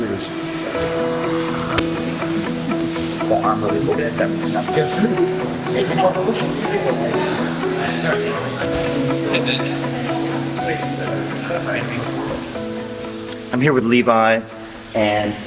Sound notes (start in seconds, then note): 0.1 peaceful music; 3.6 indistinct conversation